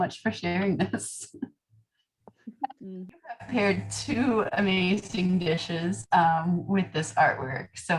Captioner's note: laughter